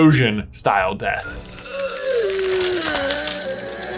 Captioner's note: gasp of shock